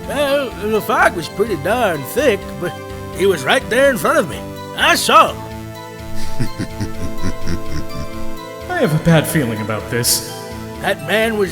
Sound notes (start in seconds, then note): 6.1 chuckling